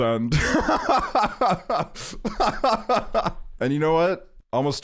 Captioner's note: laughing